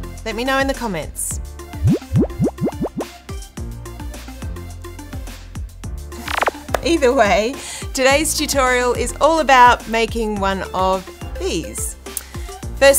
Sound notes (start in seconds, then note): 1.7 upbeat music; 6.6 comments pattering